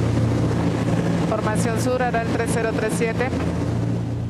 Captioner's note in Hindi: स्पैनिश बोलते हुए